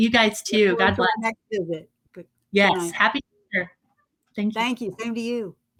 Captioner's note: murmuring